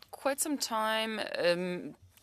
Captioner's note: speaking French